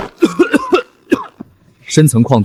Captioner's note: cough cough cough